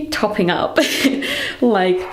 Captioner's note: laughs